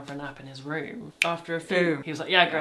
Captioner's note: clicks